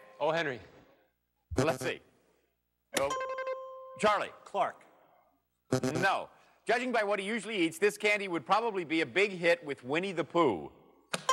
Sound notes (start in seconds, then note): 0.0 dings; 1.9 buzzing; 3.0 dings; 5.5 buzzing